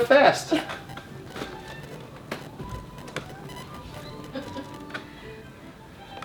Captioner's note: chair squeaks; classical music; mom laughs